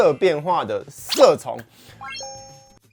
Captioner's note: in Mandarin